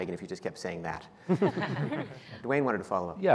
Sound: laughing

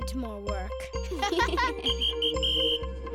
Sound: laughing; whistle blowing

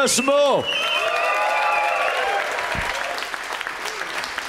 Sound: applause

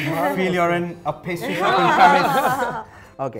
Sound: fake french accent; chuckles

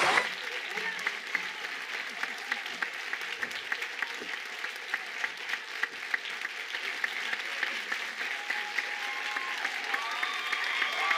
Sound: cheers and applause

